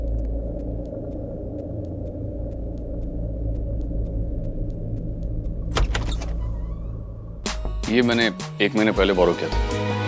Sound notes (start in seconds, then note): 5.6 Door opens